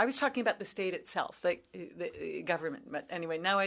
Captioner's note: speaking French